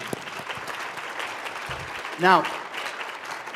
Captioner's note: applause